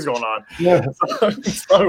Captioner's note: laughs